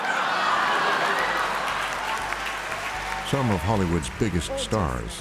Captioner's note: laughter